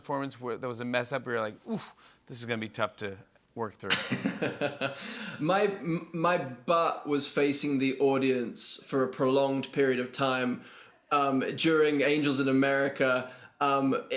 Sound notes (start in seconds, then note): 4.1 laughs